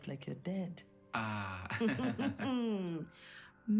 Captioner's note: laughs